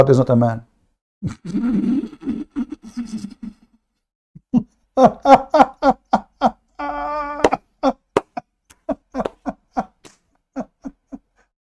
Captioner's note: Ketawa